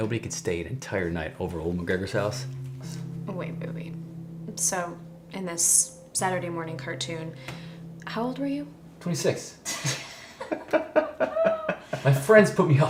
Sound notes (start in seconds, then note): 9.6 all laughing